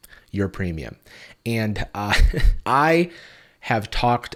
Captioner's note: laughs